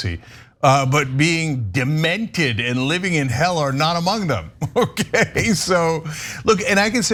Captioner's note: laugh